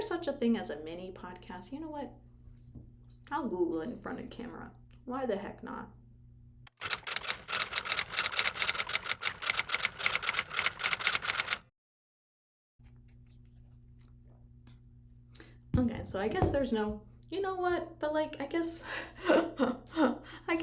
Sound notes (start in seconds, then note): 6.8 typing sound effect